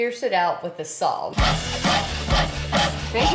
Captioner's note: sawing sound